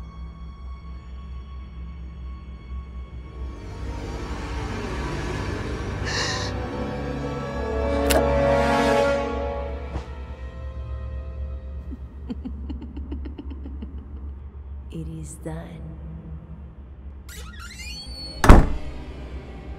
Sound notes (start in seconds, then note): 3.2 suspenseful music; 5.9 music intensifies; 6.0 gasps; 8.1 neck snap; 11.8 evil laughter; 17.3 door shuts; 17.6 ominous music